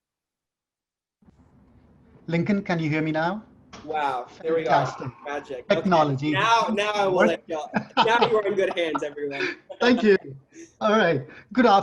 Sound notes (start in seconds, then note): 6.7 chuckles